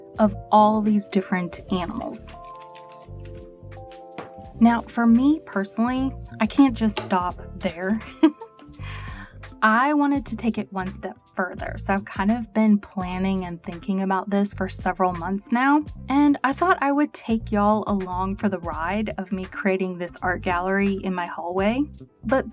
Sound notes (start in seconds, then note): 8.0 chuckles